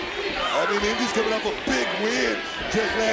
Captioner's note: crowd chants "indi"